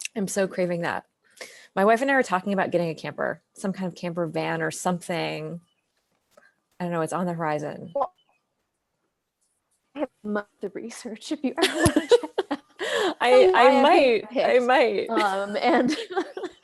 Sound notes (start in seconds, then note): 11.6 both laugh; 15.1 laughs